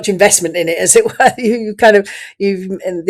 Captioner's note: laughs